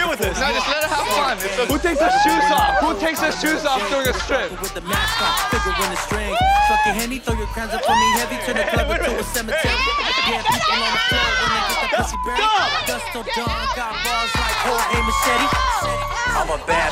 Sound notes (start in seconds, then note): 5.6 cheering